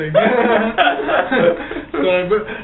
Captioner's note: laughs